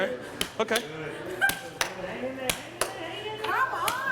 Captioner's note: indistinct chatter